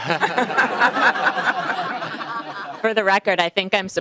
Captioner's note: laughing